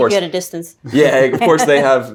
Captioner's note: laughing